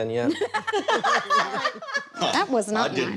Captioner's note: laughter